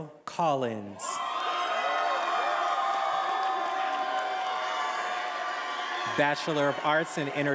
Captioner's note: attendees applauding and cheering